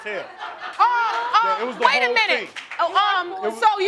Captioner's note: crowd laughing